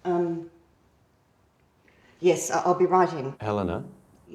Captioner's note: none